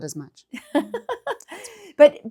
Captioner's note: laughing